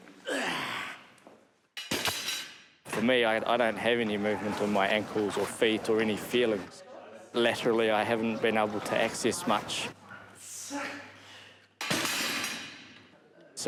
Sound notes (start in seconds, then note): 0.2 grunts; 1.8 barbell thuds, clatters; 10.5 grunts; 11.8 barbell thuds, clatters